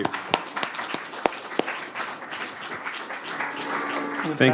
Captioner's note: applause